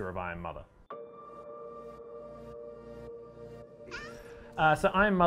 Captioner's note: bell music; baby cooing